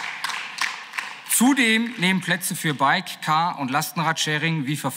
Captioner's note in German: Beifall